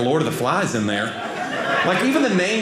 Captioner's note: audience laughing